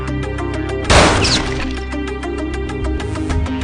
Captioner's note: gun firing